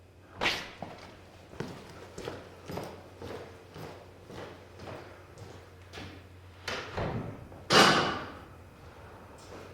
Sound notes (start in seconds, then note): 3.1 foot Steps